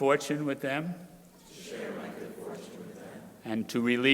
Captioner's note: crowd repeating